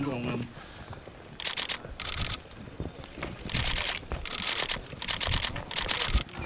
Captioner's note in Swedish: Upprepde kamerklick